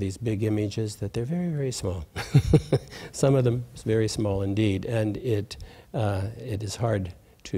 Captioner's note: laughs